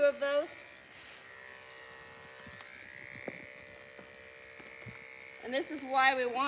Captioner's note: clippers buzzing